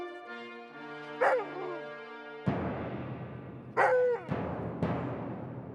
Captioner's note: barking